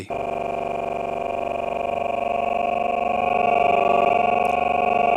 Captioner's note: sound sample stuttering